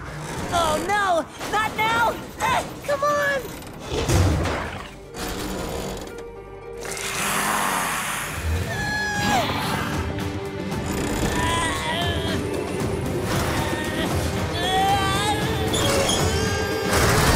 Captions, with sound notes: Oh, no! Not now! Come on! [snarling] [grunting]